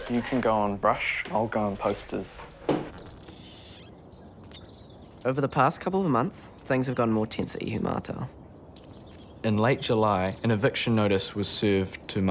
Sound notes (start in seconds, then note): 2.5 door creaks; 3.2 birds chirping